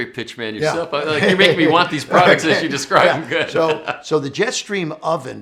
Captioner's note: laughs